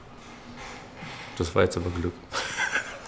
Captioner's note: laughs